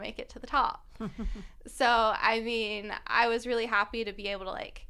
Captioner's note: laughter